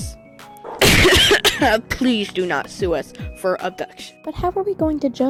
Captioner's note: cough